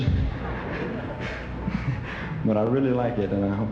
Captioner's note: audience laughing